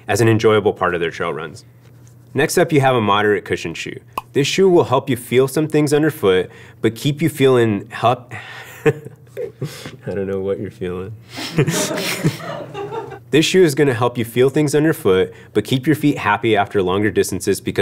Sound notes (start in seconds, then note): 8.6 chuckles; 11.4 all laugh